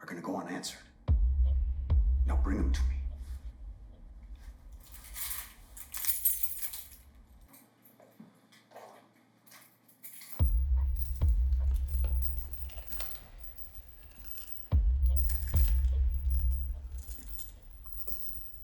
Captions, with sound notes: are gonna go unanswered. Now bring him to me. (keys jingling) (dramatic music)